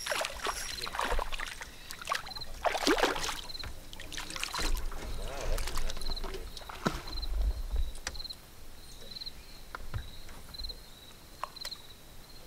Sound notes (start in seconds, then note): 0.0 splash; 3.6 crickets chirping